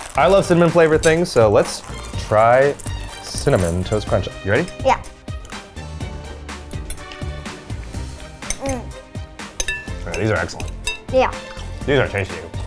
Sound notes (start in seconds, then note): 5.7 upbeat instrumental music; 8.6 moans